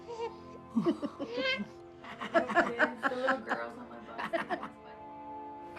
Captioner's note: laughter